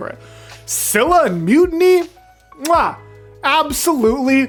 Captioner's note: mwah